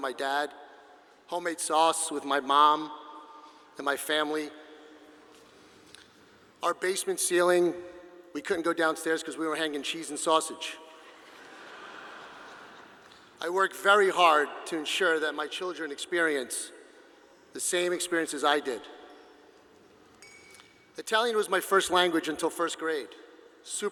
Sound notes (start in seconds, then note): 11.0 audience laughing